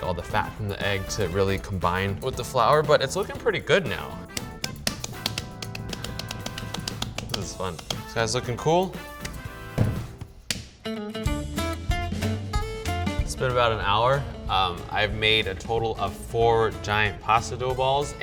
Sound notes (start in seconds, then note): 4.0 slapping dough; 10.6 lively music